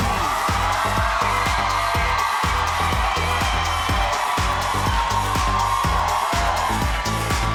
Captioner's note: audience cheering; fun energetic music